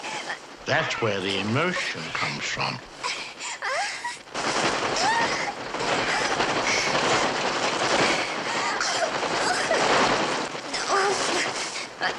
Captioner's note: screaming